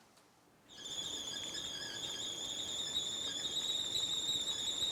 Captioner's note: kettle whistling